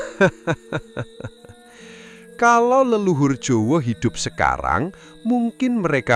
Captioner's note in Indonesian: tertawa